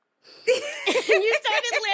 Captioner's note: laughing